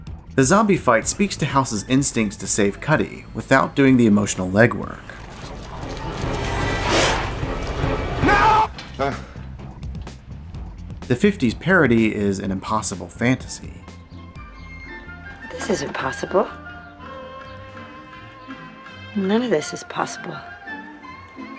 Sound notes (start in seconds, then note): 7.0 groans